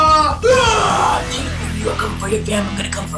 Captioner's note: yells